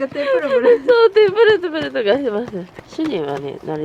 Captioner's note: laughter